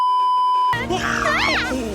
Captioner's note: beeeeeeeeeeeep; screaming